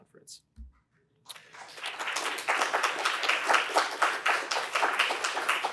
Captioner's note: applause